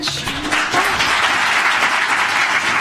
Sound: applause

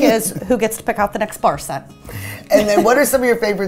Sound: laughs

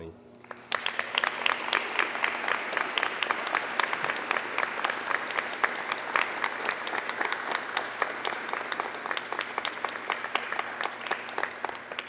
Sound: applause

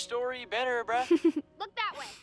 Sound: chuckles

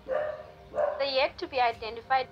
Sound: dog Bark

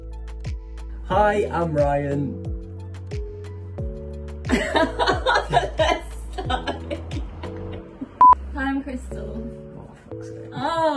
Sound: laughter

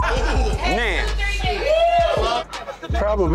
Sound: patrons whooping

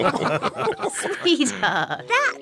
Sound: all laugh

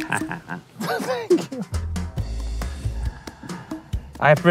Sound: laughing

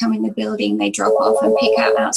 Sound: phone ringing

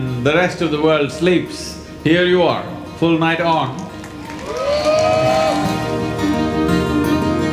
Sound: applause

